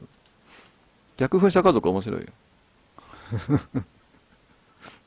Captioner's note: laughs